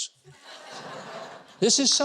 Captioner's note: audience laughs